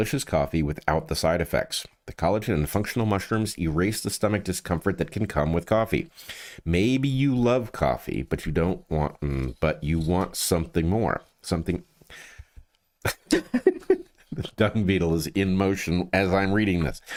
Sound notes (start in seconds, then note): 13.0 laughing